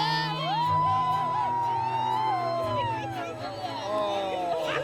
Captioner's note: all cheering